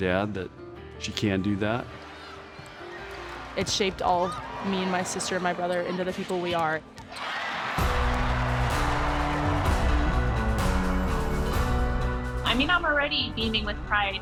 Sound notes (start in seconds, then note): 2.0 gentle music; 7.0 crowd cheering; 7.7 upbeat music